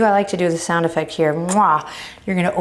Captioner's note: kissing